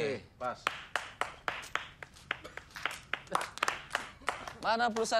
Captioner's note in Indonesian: Tepuk tangan basa-basi